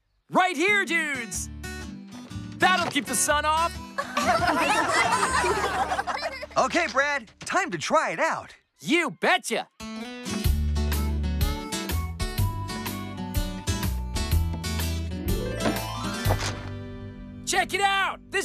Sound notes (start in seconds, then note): 4.0 all Laugh; 16.2 pop!